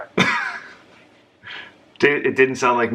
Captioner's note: laughs